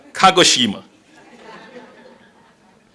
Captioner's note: laughter